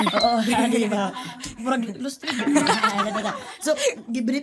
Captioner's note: laughter; laughter